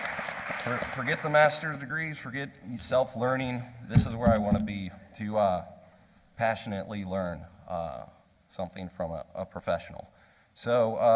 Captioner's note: applause